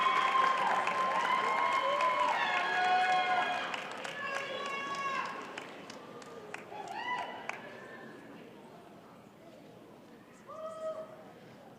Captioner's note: applause